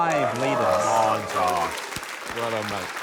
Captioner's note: applause